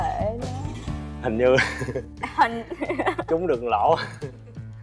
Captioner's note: laughs